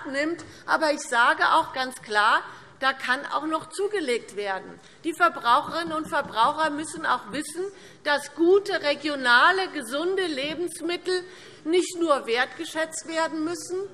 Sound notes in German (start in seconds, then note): none